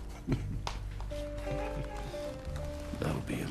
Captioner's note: chuckling